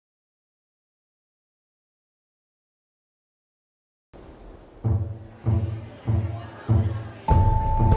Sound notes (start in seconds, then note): 0.6 audience chattering; 0.6 pensive music; 3.9 bells ringing